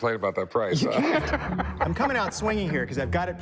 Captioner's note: laughs